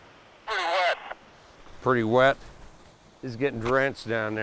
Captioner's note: walkie-talkie